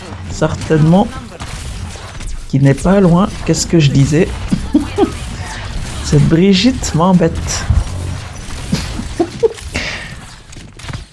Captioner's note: laughs